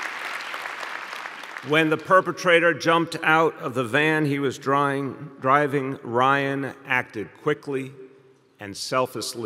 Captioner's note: applause